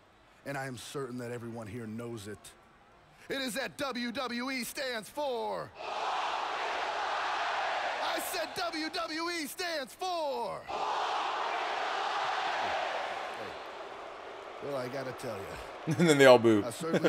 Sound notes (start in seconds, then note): 6.8 applause; 12.9 applause; 15.4 laugh